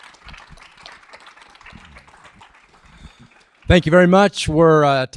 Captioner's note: audience applauding